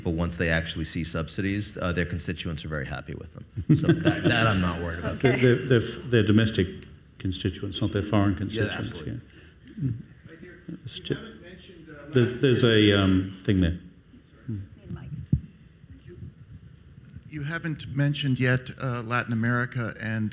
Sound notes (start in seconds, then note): 3.6 Kevin laughs